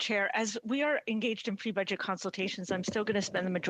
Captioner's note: speaking French